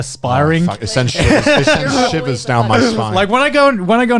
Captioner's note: laughing